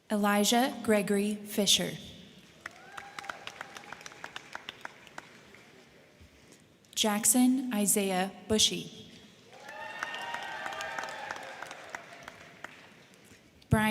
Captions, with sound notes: Elijah Gregory Fisher. (crowd cheering) (crowd clapping) Jackson Isaiah Busche. (crowd cheering) (crowd clapping)